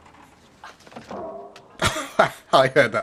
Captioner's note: clunk